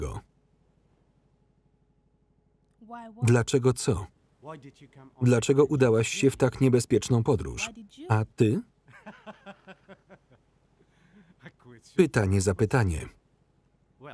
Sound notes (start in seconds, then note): 9.0 laughing